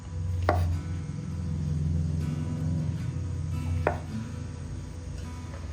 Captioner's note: sound of a motorcycle passing